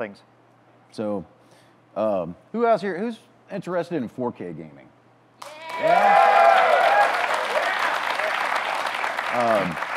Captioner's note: audience claps, cheers